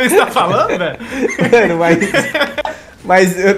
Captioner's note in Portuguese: risos